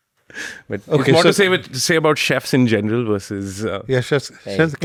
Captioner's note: laughs